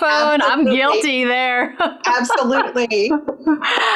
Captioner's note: laughs